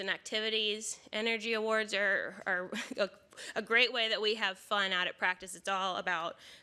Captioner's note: laughs